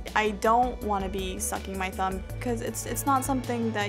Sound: none

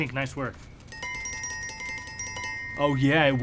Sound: tink Bells

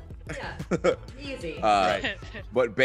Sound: laugh

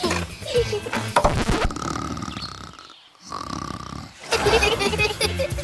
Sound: both laughing; record scratching; man continues snoring; both laughing

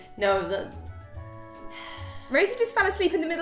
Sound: sigh

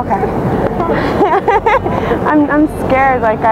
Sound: is laughing

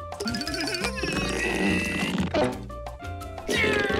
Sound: grunting

